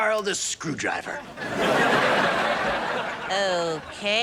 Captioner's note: audience laughs